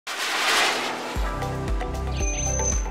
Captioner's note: whooshing Sound, Music